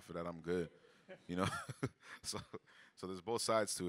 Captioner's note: chuckles